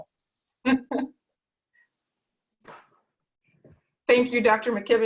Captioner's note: laughing